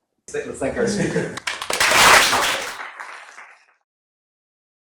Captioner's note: applause